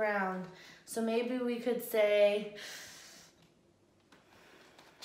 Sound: inhales

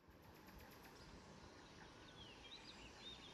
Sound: birds chirping

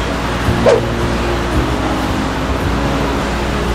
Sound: swoosh

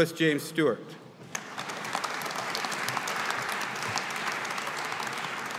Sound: audience applauding

